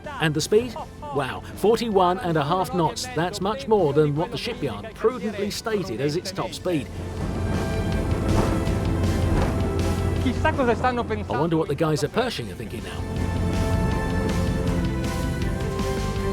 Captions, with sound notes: and the speed, wow, 41 and a half knots. That's much more than what the shipyard provably stated as its top speed. (dramatic music) (speaking in foreign language) I wonder what the guys are Pershing are thinking now. (dramatic music)